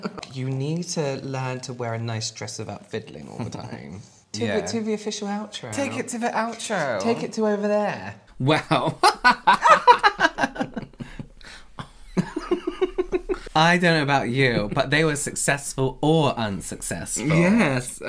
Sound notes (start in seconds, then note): 8.8 fake Laughing